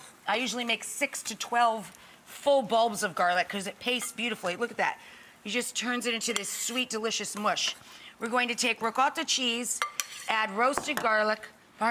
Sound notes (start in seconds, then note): none